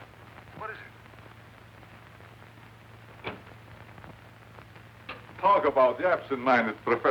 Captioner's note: on phone